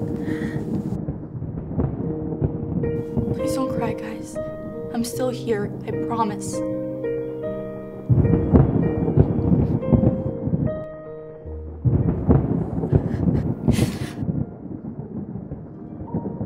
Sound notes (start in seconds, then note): 12.7 George cries